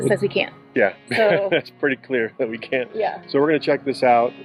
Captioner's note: laughing